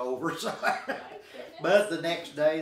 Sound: laughing

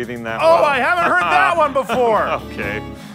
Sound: sarcastic laugh

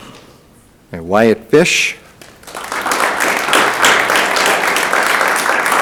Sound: audience applauding

